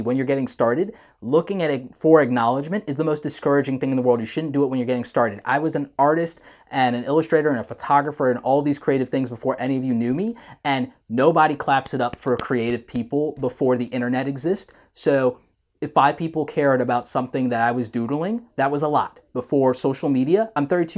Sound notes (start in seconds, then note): 11.7 claps hands